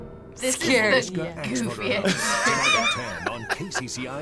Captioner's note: React laughs; laughs